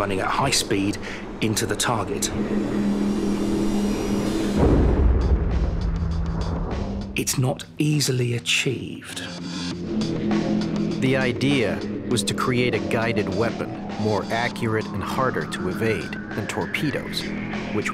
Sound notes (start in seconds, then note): 3.0 boat engine running; 4.5 explosion